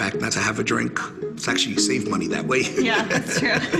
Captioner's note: laughs